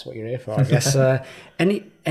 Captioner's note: chuckling